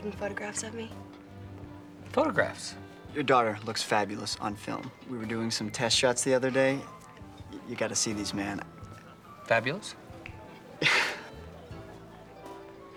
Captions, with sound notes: Did I tell you that Paul's taking photographs of me. Photographs. Your daughter looks fabulous on film. We were doing some test shots the other day. You gotta see these, man. Fabulous? (laughs)